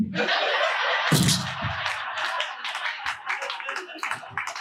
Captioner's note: audience laughing